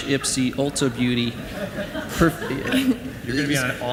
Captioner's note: audience laughs